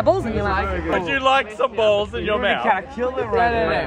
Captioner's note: voiceover